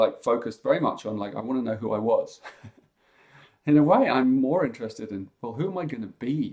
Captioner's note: chuckles